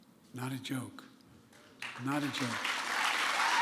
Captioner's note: applause